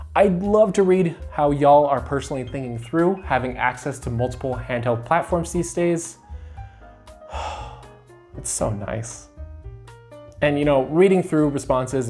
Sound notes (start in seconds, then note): 6.3 relieved sigh